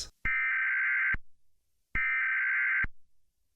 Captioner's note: alarm ringing